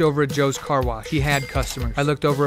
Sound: cash register bell rings

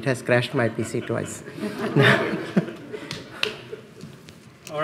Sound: laughs

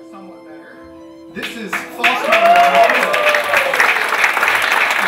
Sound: team applauding

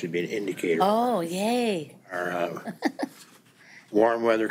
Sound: laughs

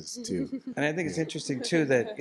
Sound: laughter

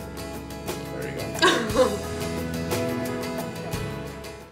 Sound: laughing

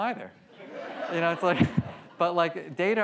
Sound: audience laughs

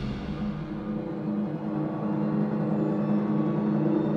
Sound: footsteps approaching

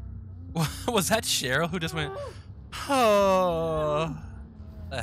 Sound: moans

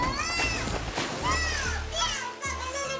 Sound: water splashing

